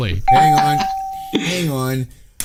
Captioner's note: bell ringing